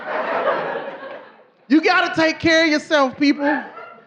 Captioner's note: audience laughing